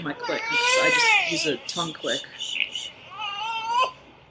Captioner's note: baby crying